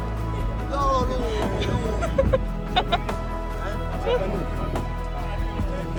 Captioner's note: companions cracking up